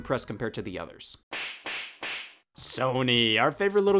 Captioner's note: knee slapping